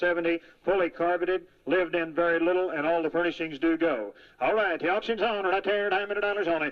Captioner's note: auctioneering